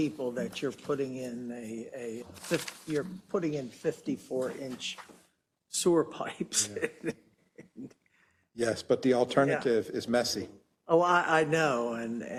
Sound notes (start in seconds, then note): 6.5 laugh